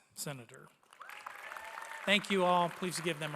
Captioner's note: applause